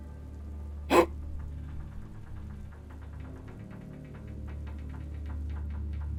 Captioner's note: metal creaking; monk grunts